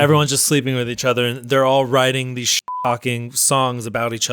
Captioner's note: beep